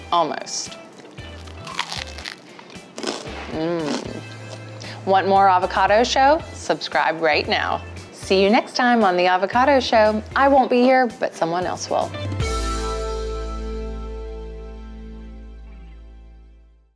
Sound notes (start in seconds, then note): 1.0 bread crunches